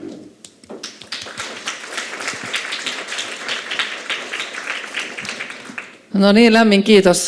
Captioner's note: Aplodeja